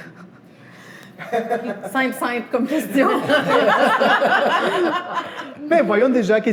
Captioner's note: laughter